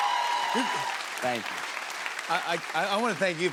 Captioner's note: cheers and applause